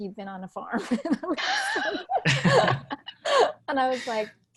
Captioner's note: laughing